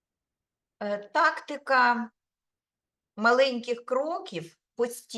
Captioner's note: speaking Ukrainian